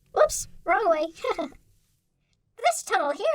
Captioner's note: laughing